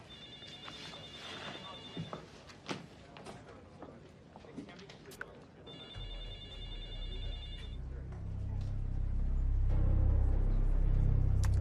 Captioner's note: text alert tone plays